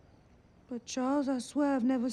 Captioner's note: none